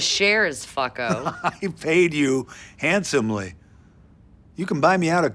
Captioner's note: chuckles